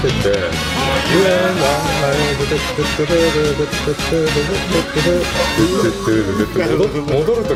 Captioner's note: humming